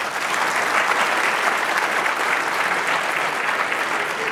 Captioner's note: audience clapping